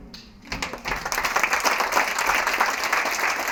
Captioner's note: applause